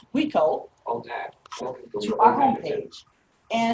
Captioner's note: rapid artificial speech